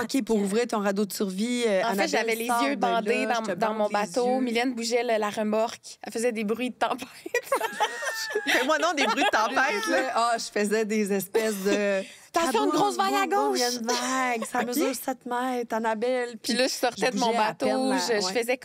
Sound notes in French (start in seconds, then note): 7.3 rires